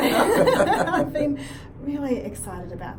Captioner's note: laughs